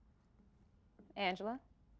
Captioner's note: none